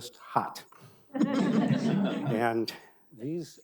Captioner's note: audience laughing